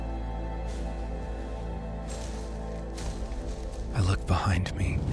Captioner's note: soft rustling